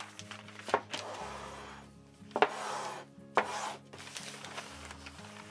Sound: metal slides and clunks

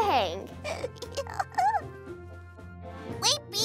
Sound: laughter

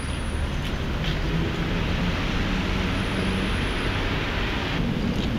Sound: traffic sounds

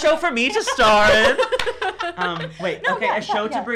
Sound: laughing

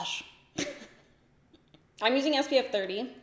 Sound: giggles

